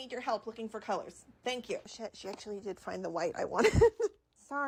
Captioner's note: chuckles